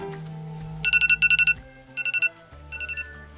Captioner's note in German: Alarmgeräusch